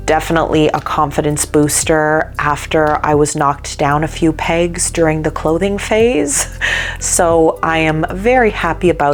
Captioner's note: badum-chh!; laughing